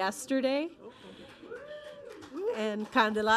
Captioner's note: audience applauding